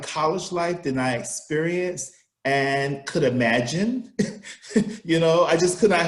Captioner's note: laughs